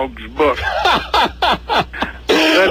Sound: laughs

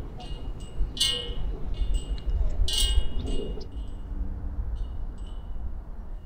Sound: chain clanging

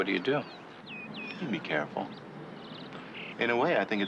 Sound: laughs

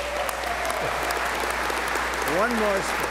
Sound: applause

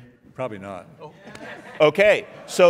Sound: audience laughing

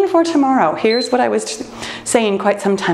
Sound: timer beeps

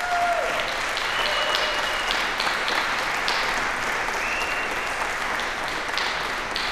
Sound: applause, cheering

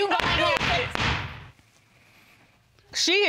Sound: gavel banging

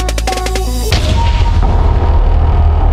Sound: bangs

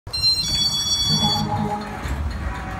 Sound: beeping sound

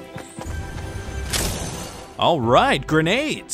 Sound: metals clanking

